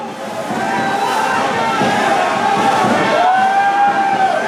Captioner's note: crowd shouting